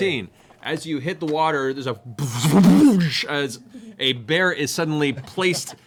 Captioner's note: double splooshing sound